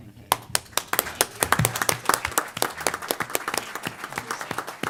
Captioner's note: applause